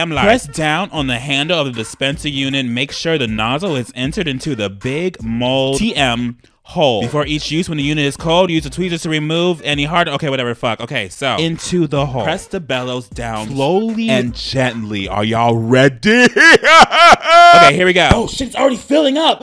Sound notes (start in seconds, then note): 16.0 laughs